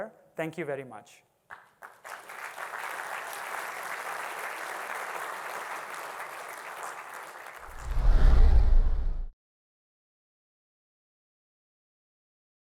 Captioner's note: applause